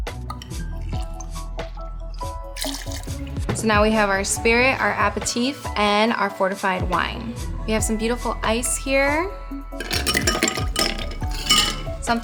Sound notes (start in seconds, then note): 2.2 liquid flowing; 9.8 clanking